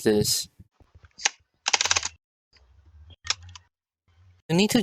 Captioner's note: keyboard ASMR